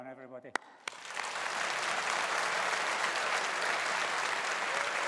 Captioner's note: audience applauding